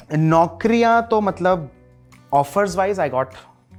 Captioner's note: none